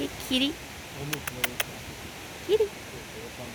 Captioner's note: mouth noise